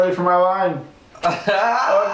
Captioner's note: laughing